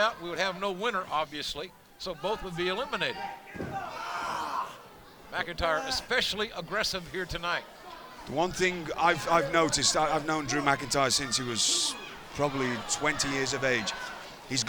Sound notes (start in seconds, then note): 4.3 Rollins exclaims